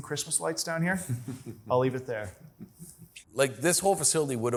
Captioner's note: laughing